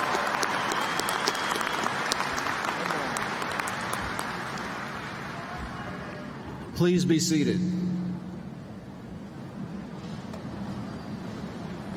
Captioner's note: applause